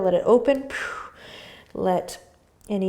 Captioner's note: exhaling breath